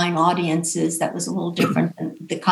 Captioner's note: coughs